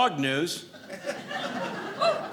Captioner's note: audience laughing